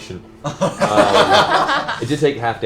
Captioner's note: laughter